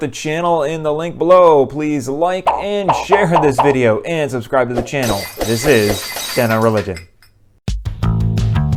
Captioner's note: glass breaking